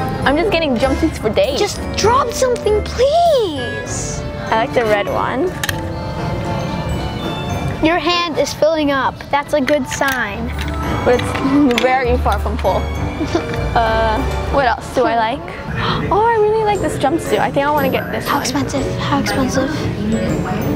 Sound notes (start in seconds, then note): 13.0 whimpers; 15.6 gasps